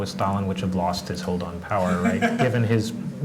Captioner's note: laugh